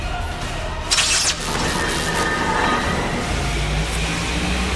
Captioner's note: energy crackles